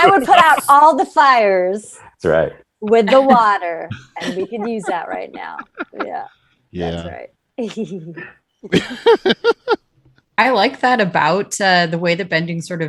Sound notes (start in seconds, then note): 8.6 all laughing